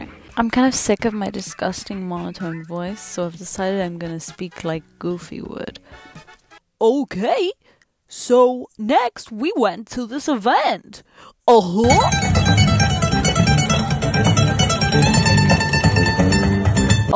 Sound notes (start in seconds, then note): 6.6 Goofy voice